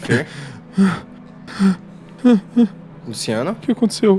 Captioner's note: panting